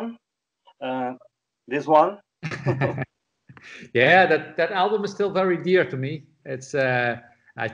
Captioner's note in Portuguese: risos